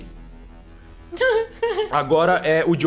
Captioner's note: laugh